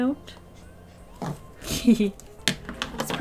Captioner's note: laughs